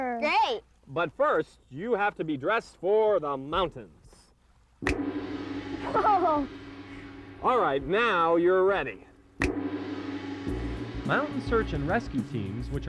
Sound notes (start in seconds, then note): 4.8 finger snaps; 4.9 gong; 9.4 finger snaps